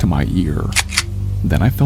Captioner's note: gun cocking noise